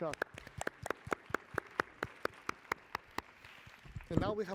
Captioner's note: applause